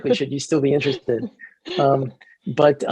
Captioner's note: laughs